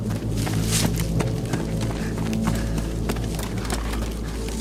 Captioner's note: runner panting